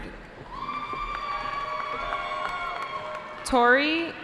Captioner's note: cheering